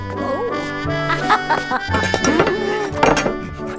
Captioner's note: laugh